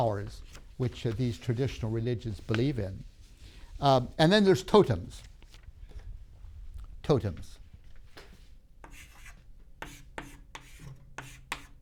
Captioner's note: chalk sounds